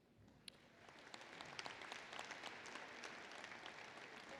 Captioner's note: applause